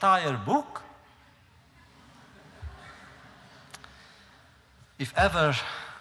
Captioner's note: laughter